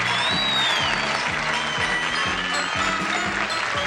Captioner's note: audience cheers; theme music plays